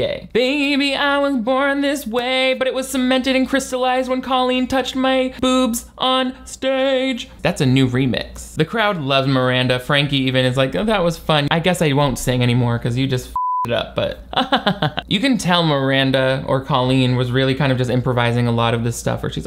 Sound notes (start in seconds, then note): 13.3 beep; 14.3 laughs